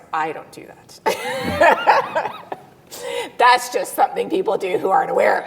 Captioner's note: laughs